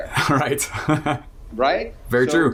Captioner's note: laughs